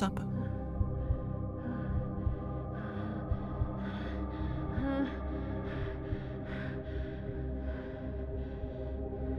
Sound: strained breathing worsens

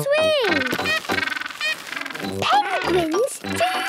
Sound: honking

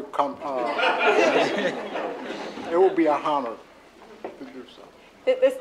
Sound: laughter

